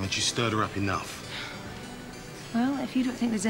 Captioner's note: Caroline sighing heavily